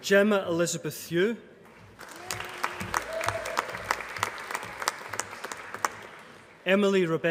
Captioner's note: applause